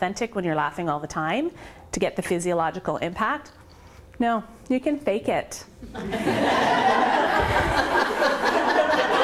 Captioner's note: laughter